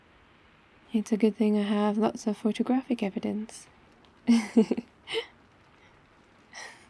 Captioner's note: laughs